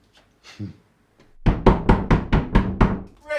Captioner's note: heavy knocking at door